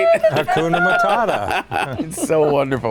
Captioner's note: laughing